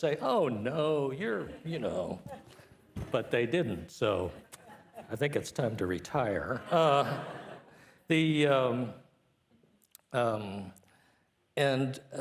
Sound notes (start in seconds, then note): 6.3 participants laughing